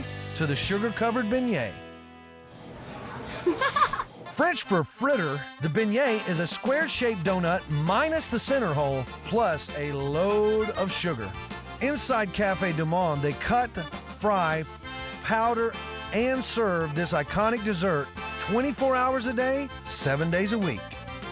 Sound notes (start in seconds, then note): 3.1 giggling